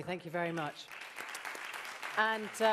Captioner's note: applause